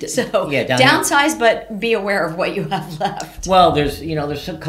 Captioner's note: chuckles